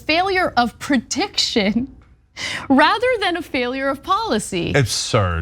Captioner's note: laugh